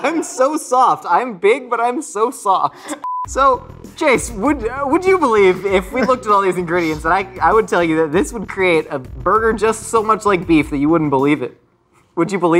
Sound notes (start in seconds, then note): 3.0 beep